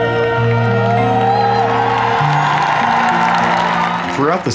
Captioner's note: applause